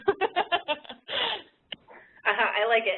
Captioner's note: laughs